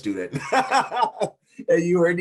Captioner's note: laughing